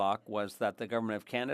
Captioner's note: speaking French